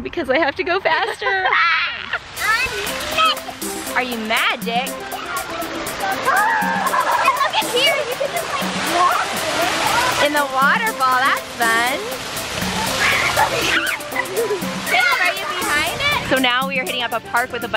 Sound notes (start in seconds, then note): 5.9 lively tropical music; 6.1 laughing